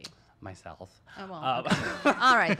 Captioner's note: laughs